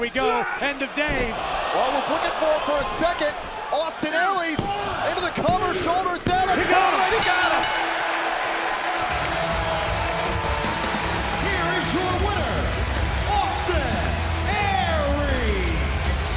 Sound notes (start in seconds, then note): 7.1 bell ringing